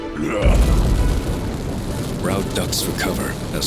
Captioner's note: fire blasts